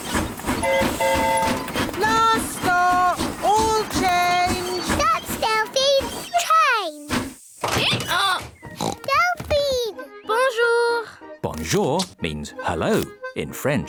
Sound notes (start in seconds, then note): 0.6 train whistle blowing; 7.5 brays; 8.7 oinks